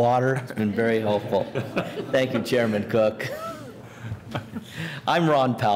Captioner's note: laughter